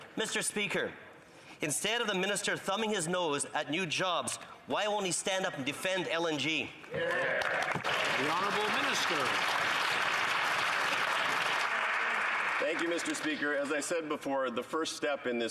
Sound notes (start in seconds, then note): 9.6 some Applause